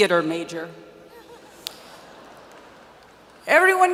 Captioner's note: audience laughs